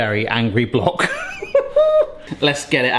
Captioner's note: laughs